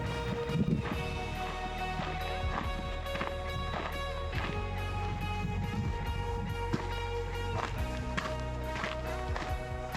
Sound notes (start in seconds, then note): 0.3 upbeat music; 5.3 wind blowing